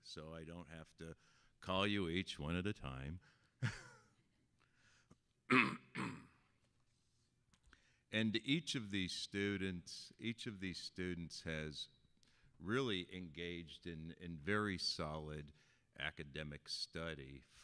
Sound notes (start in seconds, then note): 3.8 laughing; 5.5 clearing throat